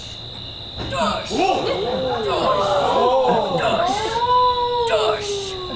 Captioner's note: Snout imitating wall thudding